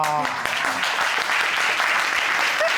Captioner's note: audience applauding